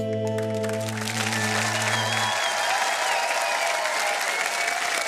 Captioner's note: applause